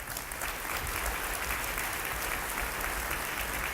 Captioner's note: applause